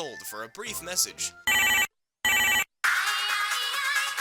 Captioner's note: ringing